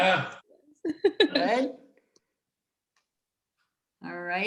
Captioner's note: giggling